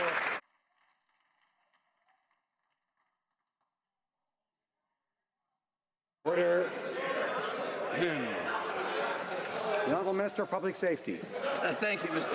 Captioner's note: some Applause